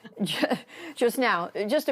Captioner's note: laughter